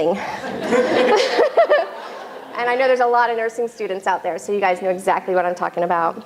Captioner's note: laughter